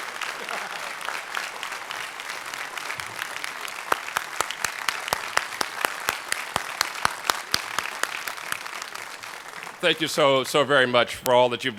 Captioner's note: applause